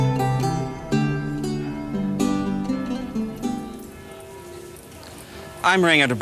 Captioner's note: church bells tolling